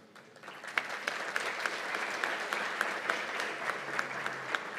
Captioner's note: applause